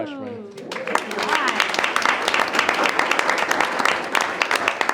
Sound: group applauds

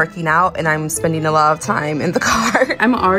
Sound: chuckles

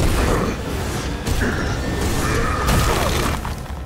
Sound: grunting

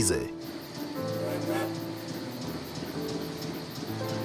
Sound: train horn

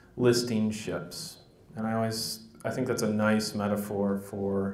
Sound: none

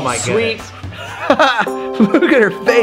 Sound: laughs

